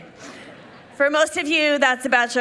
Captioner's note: people laughing